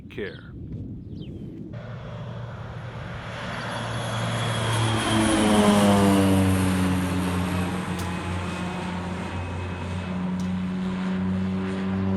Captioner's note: airplane engine